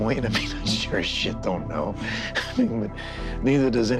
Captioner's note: chuckles